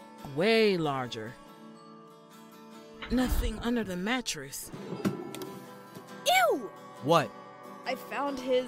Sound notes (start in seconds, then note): 1.6 mattress shuffles; 4.7 drawer opens